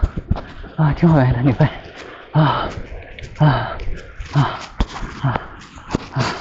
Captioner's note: panting